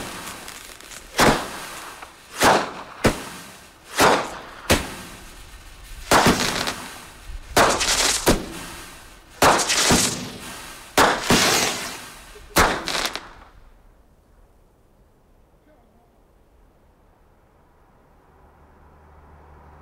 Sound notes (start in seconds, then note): 0.8 fireworks whoosh and boom, sparks crackle